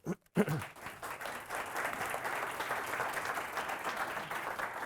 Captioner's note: audience applauding